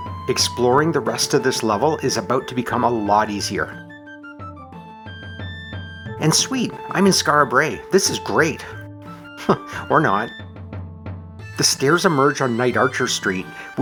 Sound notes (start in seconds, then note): 9.3 chuckles